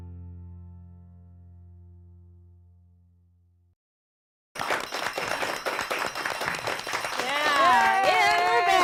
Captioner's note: applause